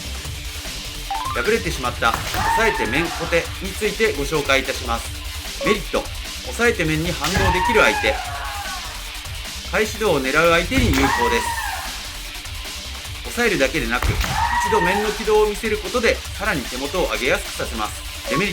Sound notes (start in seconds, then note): 14.0 body strike